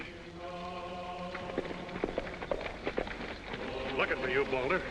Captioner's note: hooves pounding